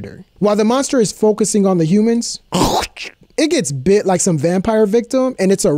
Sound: teeth mark sound

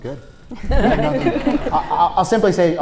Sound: audience laughs

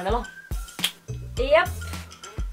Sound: snap

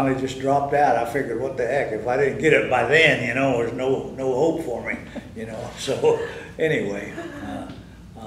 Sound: laughter

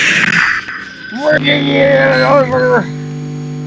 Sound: frustrated noises

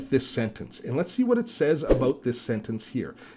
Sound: air whooshing

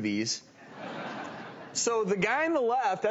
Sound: laughter

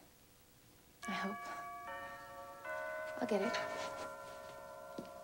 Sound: doorbell chimes

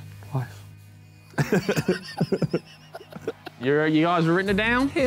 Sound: men laughing

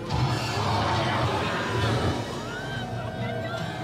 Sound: growling

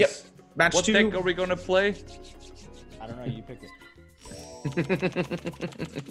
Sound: laugh

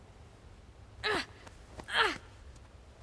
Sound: groaning

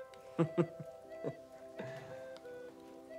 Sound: giggles

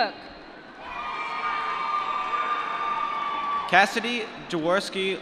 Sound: applause

